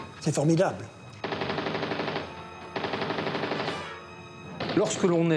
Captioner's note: guns firing